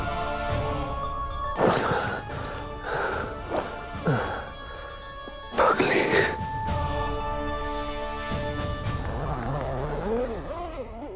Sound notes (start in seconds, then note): 1.5 Exhales sharply